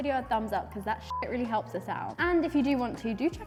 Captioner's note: beep